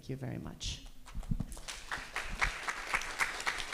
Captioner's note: applause